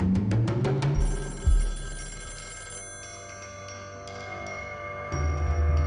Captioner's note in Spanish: Suena el teléfono